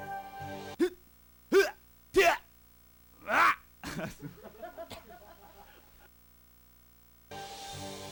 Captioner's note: people in background also laugh